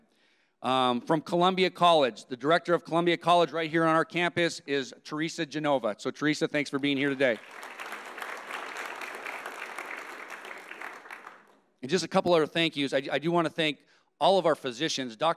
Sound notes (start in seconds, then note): 6.8 audience applauding